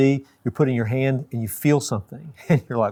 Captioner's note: laughs